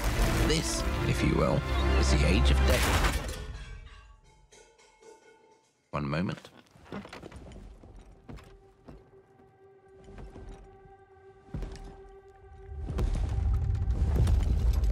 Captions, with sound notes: This, if you will, is the age of Dav-- [LOUD CRASH] [POTS RATTLING] One moment. [DRAMATIC MUSIC PLAYING]